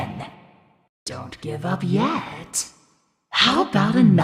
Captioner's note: none